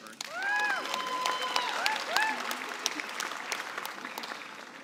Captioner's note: cheering and applause